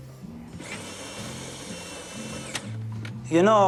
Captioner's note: machine whirring